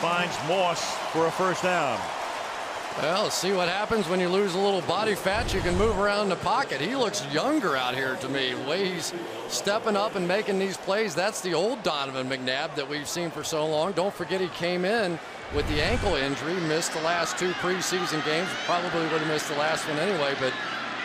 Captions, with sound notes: And he finds Moss for a first down. [cheering] Well, see what happens when you lose a little body fat? You can move around in the pocket. He looks younger out here to me way. He's stepping up and making these plays. That's the old Donovan McNabb that we've seen for so long. Don't forget, he came in with the ankle injury. Missed the last two preseason games. Probably would have missed the last one, anyway.